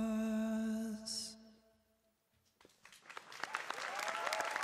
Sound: crowd cheering

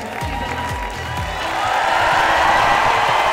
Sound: crowd cheering

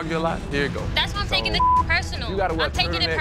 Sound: beeping

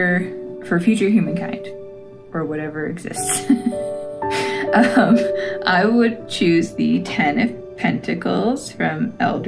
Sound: laugh

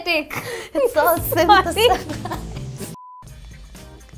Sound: both laugh

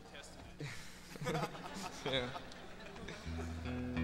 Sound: audience laughing

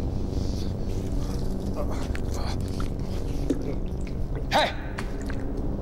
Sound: groans

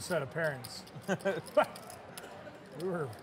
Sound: laughs

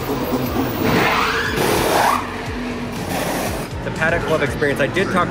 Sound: machines whirring

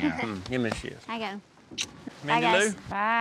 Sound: smooch

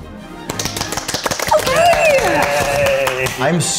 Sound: clapping

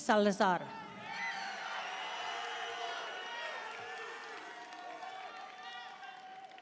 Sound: audience cheering and applauding

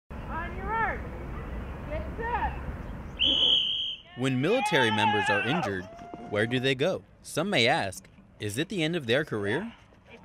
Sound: whistle

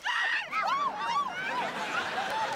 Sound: screaming

